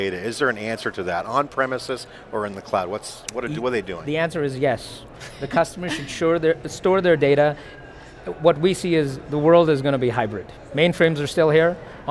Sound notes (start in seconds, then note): 5.7 knight laughs